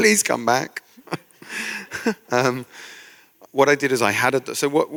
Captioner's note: chuckle